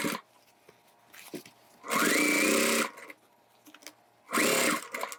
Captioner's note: machine whirring